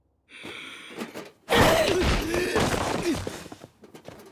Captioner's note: HANGE grunts; NICK groans